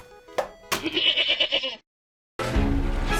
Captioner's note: goat bleat